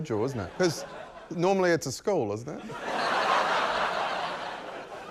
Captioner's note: laughter